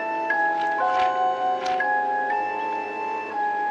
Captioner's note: pages turning